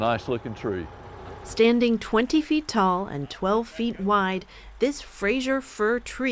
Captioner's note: voice-over